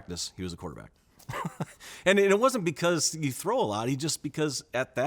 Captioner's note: chuckles